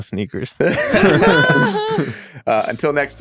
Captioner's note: all laughing